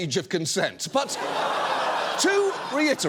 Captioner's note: audience laughs